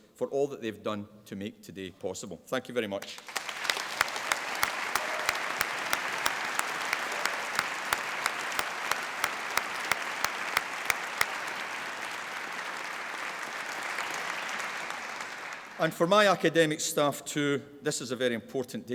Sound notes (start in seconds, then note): 3.4 applause